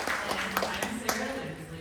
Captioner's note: applause